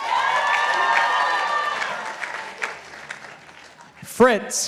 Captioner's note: participants applauding